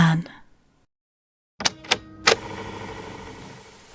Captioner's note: tape recorder noises